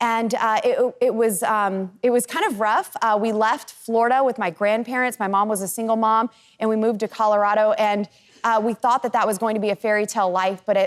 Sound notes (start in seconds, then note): none